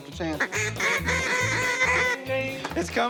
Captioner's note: duck calls